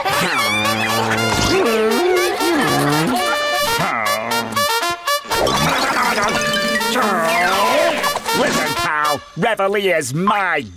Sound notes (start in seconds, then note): 0.1 groaning; 2.0 laughing; 5.3 groaning